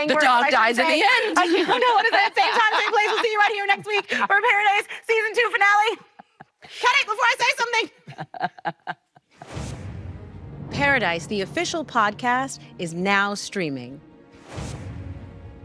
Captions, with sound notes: -I shouldn't say! -The dog dies in the end. I don't wanna say it. Same time, same place. We'll see you right here next week for Paradise Season Two finale. -[laughing] -Cut it before I say something! Paradise, the official podcast, is now streaming.